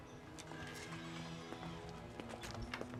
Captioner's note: door creaks